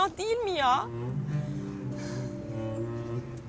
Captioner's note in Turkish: Nefes sesi